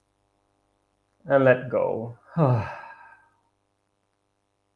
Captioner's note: sighs